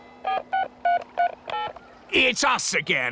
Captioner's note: dialing